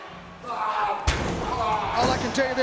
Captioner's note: wrestler grunting